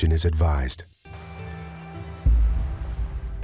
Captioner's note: water rushing